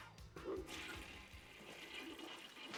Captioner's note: toilet flushing